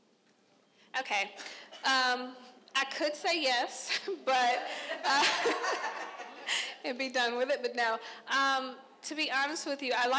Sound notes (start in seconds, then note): 4.5 crowd laughing